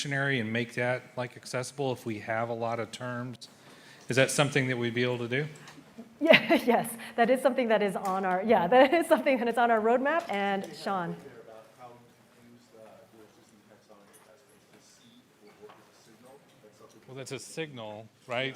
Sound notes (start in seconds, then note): 6.2 laughter; 14.5 muted